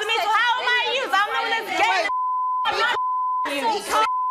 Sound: beep; beeping

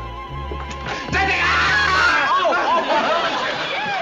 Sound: shouts

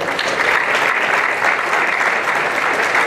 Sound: applause

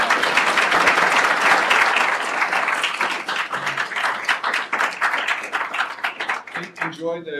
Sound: applause

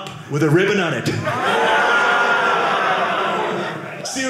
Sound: audience laughing

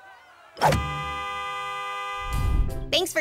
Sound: honking

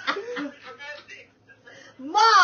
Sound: laughing

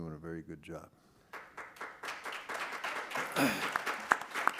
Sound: applause

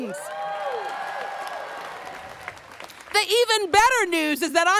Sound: students cheering

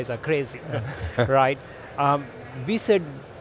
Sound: laughs

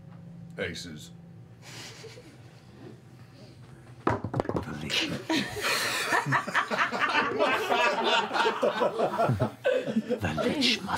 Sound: laughter

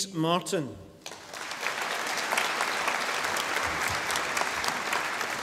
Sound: audience applauding

